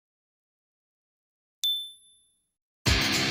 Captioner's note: ding; rock music plays